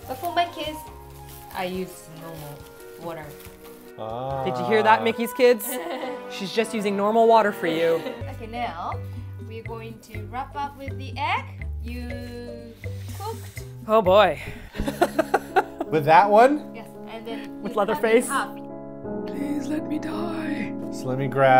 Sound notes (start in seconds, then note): 14.7 laughter